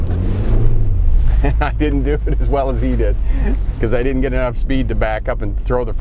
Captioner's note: chuckling